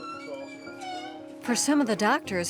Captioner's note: door squeaking